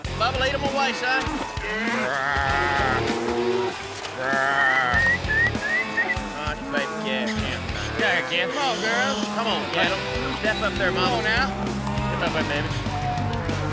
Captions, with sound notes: BUBBA, LEAD 'EM AWAY SON. RAA... [WHISTLING] [CALLING CATTLE] COME ON, GIRLS. COME ON. GET UP THERE, BABIES. [CATTLE MOO]